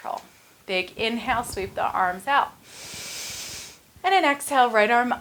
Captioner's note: inhales